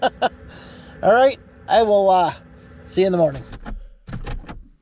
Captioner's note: laughs